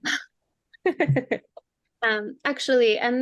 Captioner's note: laughing